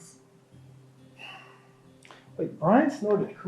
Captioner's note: sighs